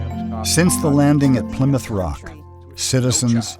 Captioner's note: voiceover